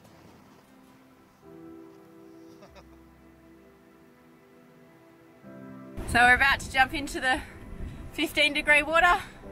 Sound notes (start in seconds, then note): 2.5 laughs